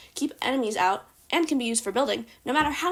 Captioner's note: none